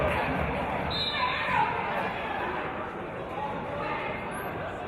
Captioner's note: referee's whistle